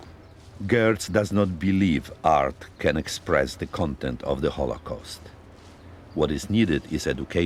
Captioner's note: voice-over